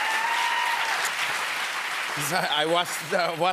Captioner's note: cheers and applause